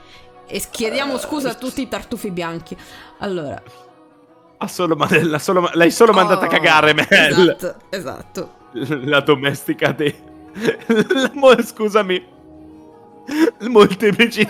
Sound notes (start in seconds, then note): 11.8 laughs